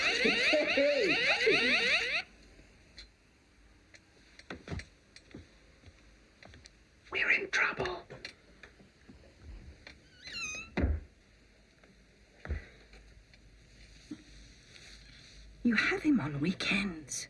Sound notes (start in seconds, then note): 0.0 laughing; 0.0 chirping stops; 6.7 whispering; 10.1 door closes